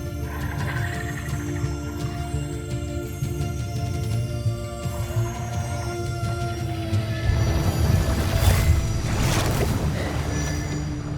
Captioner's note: sparkling whoosh, energy swirling